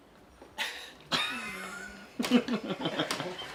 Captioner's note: laughing